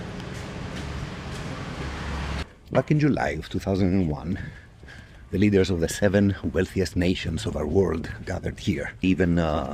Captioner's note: crackling